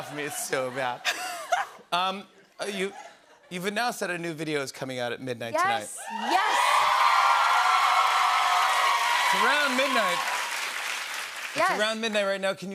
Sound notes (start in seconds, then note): 6.0 cheers and applause